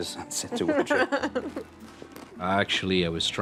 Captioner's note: laughs